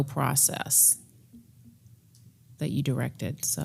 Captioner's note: none